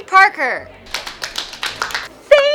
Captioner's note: applause